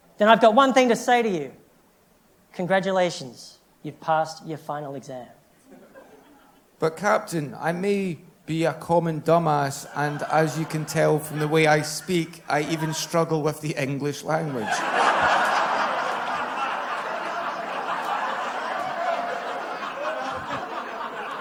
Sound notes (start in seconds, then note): 16.7 laughter